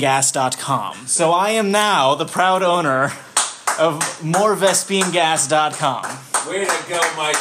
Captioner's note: clapping